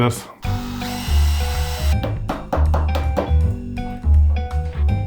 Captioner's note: drill whirs